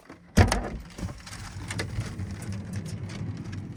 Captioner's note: metal clanking